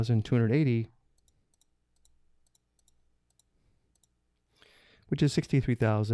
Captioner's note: buttons clicking